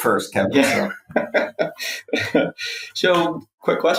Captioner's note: laughs